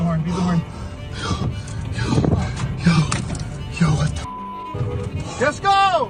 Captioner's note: heavy panting